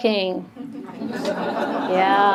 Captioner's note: audience laughs